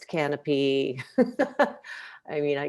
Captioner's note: laughs